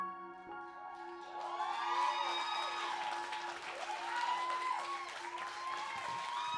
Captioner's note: audience clapping and cheering